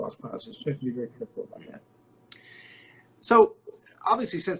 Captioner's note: murmurs